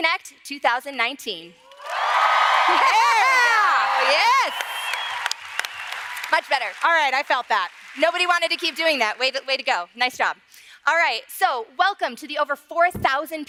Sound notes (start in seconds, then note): 2.5 laughter; 8.9 applause